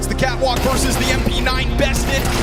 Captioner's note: gun firing